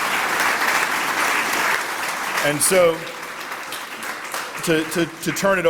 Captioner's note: applause